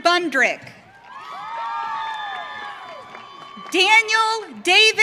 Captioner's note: audience cheering